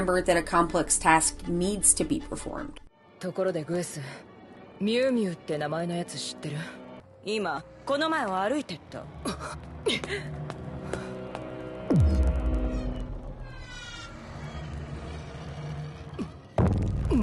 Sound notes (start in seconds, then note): 10.4 footsteps clomping; 10.4 intense music